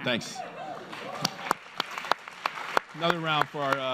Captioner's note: applause